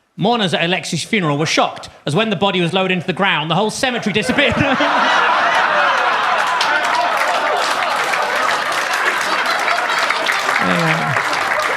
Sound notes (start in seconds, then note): 4.1 audience laughs; 4.8 laughs; 5.4 audience claps